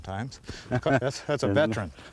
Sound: laughter

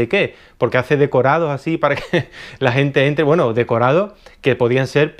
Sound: giggles

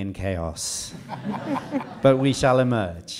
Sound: audience laughing

